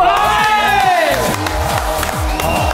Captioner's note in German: Jubel